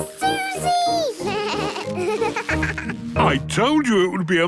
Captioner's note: bleating, laughing